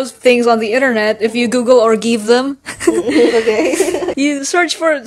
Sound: giggling

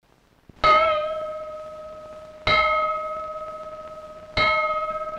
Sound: bell ringing

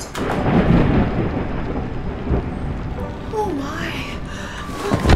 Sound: thunder cracking

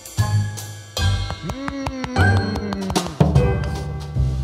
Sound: Santa moaning

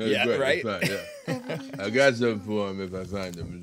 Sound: group laughing

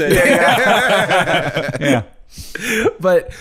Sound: all laughing

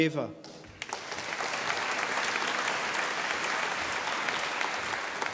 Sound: audience applauding

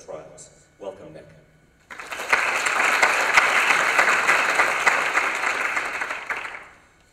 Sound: applause

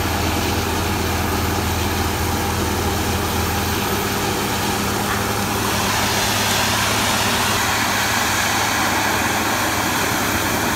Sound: drilling sounds

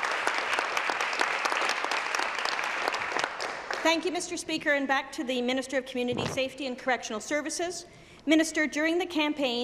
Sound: applause

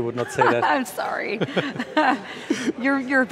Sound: laughs

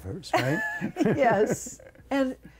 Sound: laughter

